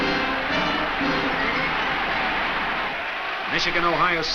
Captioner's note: crowd cheers